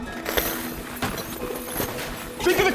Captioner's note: gold clattering